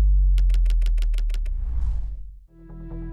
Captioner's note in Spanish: máquina de escribir